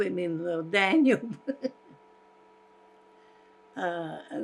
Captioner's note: laughing